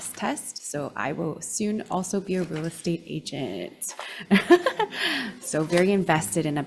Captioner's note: laughs